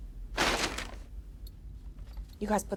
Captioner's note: bag rustles